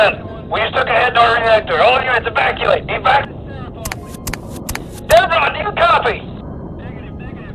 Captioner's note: radio chatter of dispare